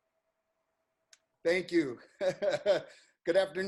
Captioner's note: chuckles